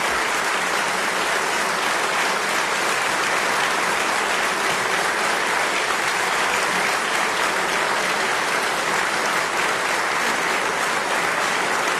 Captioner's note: applause